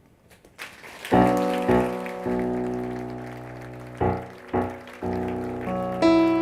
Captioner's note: applause